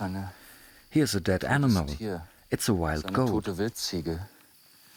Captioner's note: in German